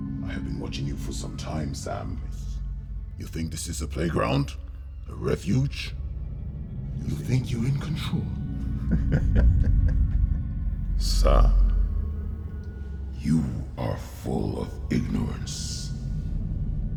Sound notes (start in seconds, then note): 8.5 diabolical laugh; 13.0 echoing